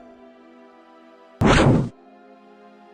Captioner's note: zap